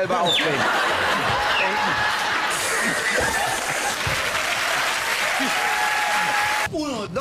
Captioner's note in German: Gelächter und Applaus